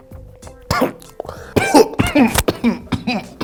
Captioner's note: coughing